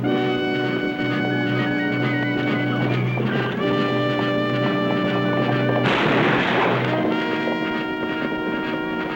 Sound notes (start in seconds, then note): 5.7 gunfire